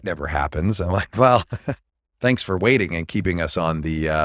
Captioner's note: laughs